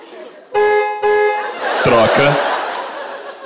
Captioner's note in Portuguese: buzina